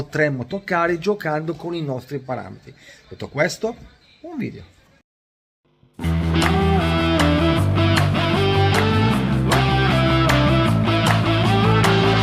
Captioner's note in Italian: Applauso